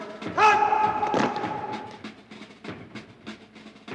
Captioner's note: soldiers feet stomp; upbeat percussive music